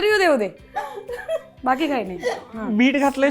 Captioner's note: chuckles